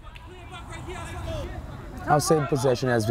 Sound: players talking and yelling

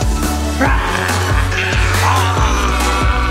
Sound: yelling

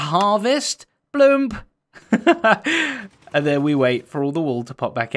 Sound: chuckles

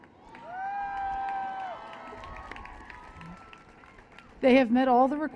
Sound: cheers and Applause

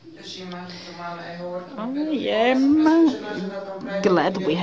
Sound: non-english

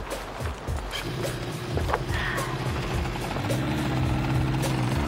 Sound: engines roaring

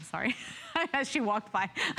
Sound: laughter

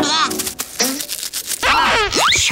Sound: gasping

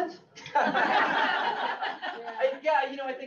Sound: all laugh

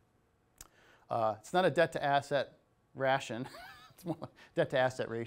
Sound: laughing

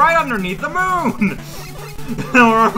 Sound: chuckling

